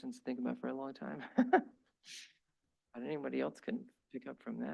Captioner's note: laughs